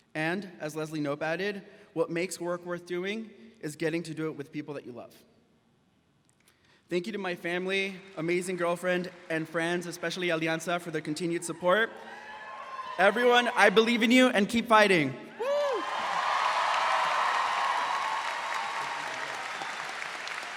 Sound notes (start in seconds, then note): 11.1 graduates cheering and clapping; 15.3 shouts